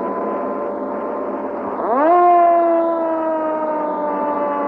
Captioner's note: siren